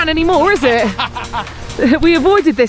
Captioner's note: laughs